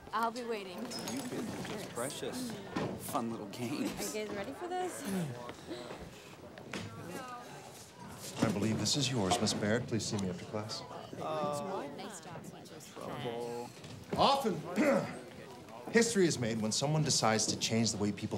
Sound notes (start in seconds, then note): 5.7 students murmuring; 14.8 clears throat